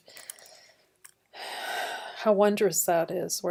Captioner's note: sigh